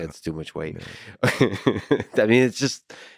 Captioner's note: Lex laughing